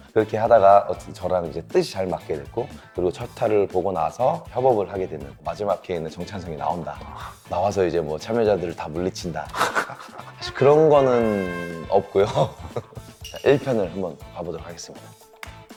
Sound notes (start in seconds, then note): 9.4 laughing